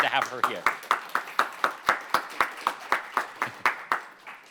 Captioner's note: applause